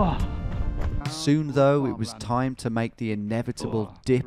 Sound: voiceover

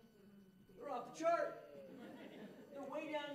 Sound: audience laughing

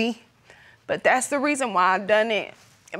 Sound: tearfully

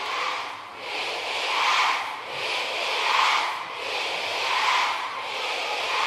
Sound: ARMYs chanting BTS

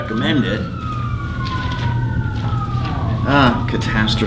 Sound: sirens

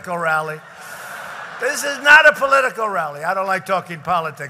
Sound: laughter

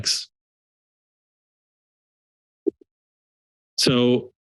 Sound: silence

